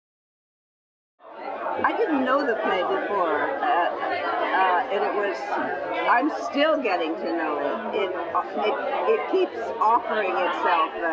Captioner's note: background chatter